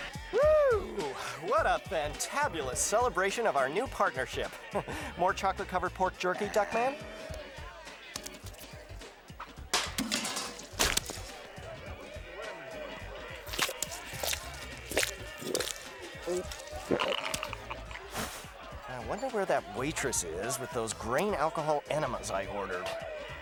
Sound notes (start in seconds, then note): 13.4 squishing; 15.7 gulping